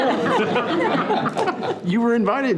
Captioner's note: participants laughing